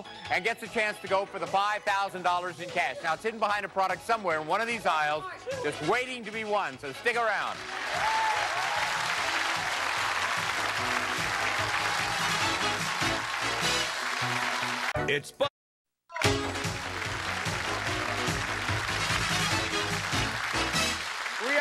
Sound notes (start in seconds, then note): 7.5 cheers and applause; 10.8 upbeat music; 16.1 cheers and applause